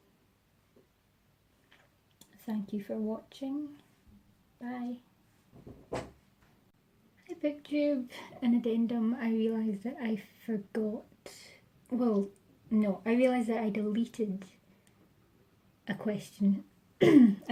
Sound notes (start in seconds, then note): 5.5 thump; 17.0 clears throat